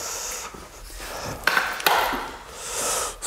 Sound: clattering

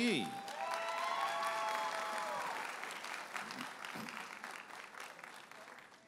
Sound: audience applauding and cheering

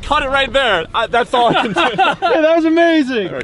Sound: laughs

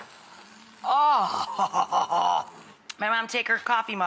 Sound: groans

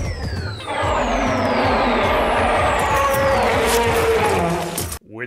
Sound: roar

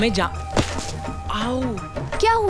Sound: groans

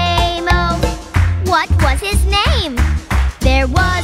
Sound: clap

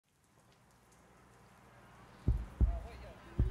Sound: rain drops falling; police scanner & police sirens in background

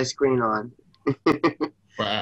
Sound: laughs

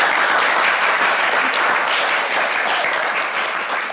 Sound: everyone applauds

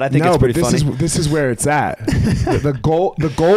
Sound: chuckles

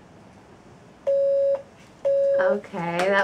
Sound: beep beep

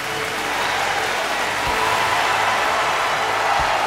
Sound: crowd cheering; crowd cheering escalates

